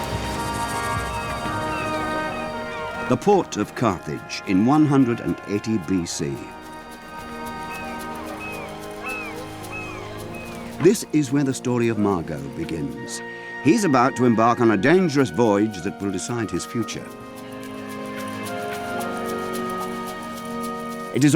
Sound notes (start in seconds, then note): 7.0 bird chirping; 7.1 gentle music; 18.2 gentle music